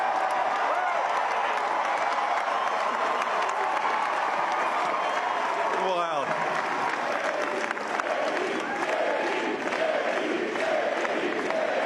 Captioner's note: applause